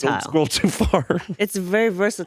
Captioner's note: laughs